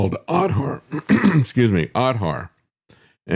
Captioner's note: clears Throat